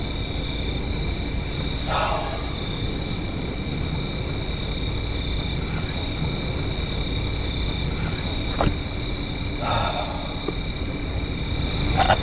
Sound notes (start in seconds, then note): 1.8 sighing